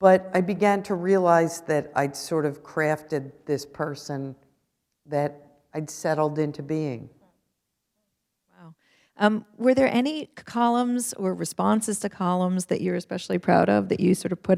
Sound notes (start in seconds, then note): none